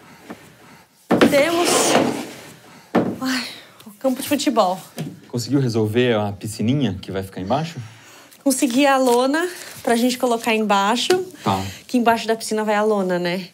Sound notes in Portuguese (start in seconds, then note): 2.5 suspira